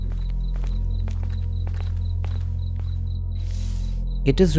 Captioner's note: footsteps echoing